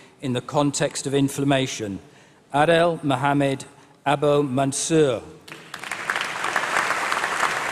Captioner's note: applause